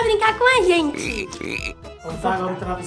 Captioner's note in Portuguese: Som de sapo